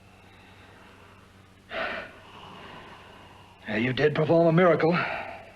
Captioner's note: sighs